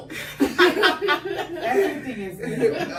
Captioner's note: everyone laughs